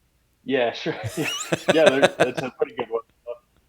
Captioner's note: both laughing